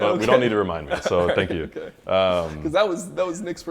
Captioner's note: laughs